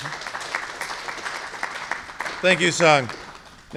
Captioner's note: applause